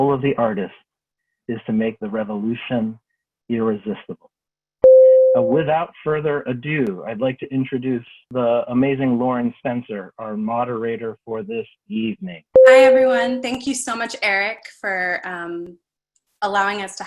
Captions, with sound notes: "of the artist is to make the revolution irresistible." (bell rings) And without further ado, I'd like to introduce the amazing Lauren Spencer, our moderator for this evening. (bell rings) -: Hi everyone. Thank you so much Eric for allowing us